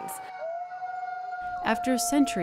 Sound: wolves howling

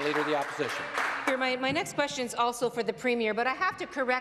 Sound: some Applause

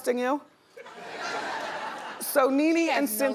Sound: audience laughs

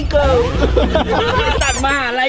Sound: laughs

